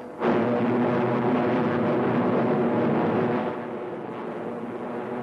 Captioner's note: plane engines roaring